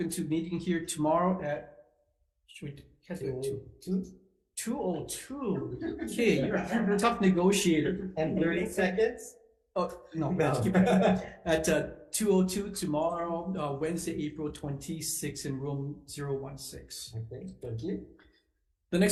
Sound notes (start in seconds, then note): 5.5 members laughing; 10.4 laughs